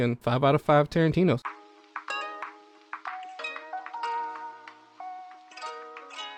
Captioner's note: soft rain and music plays